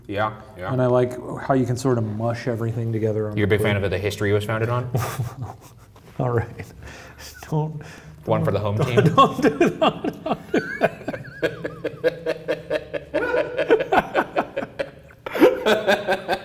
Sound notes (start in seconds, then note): 4.9 chuckles; 10.4 laughing